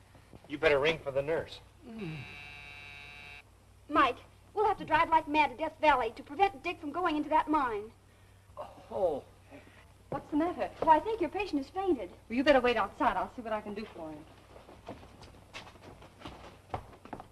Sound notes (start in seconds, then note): 2.1 switch buzzing